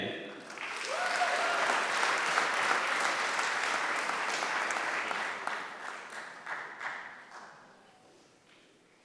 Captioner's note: applause